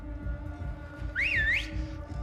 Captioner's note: whistles